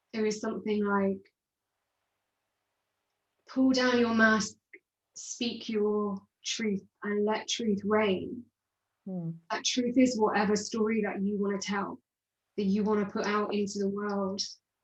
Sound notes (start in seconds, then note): none